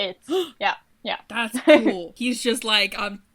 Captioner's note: gasps